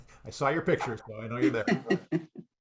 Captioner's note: laughs